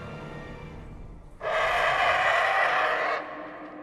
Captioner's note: alien roar